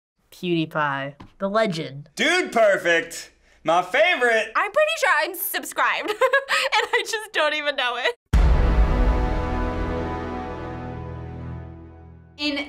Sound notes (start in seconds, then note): 6.0 laughs; 8.3 dramatic chord